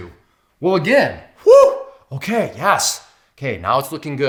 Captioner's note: hoots